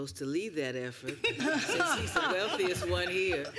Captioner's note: laughter